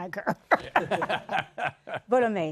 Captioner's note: laughter